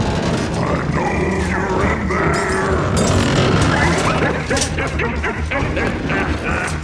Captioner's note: cackles